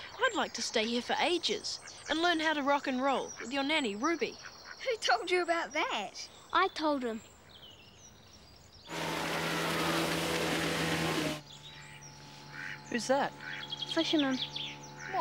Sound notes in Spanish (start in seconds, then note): 8.8 ruidos de bote a motor